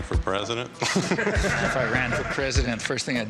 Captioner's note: audience laughing